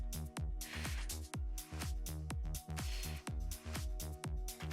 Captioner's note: upbeat lively music; exhaling deeply